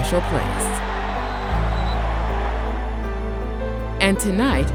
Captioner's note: crowd cheering